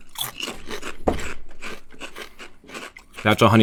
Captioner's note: crunching